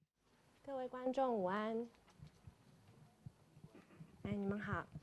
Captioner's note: Mandarin